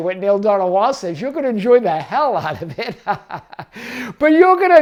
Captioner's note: laughs